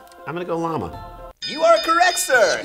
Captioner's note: bell dinging